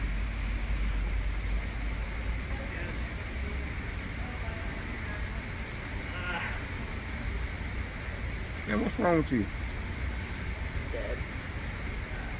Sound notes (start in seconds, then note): 6.5 grunts